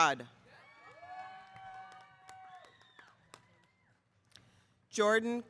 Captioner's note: audience cheering